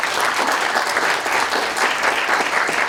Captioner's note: applause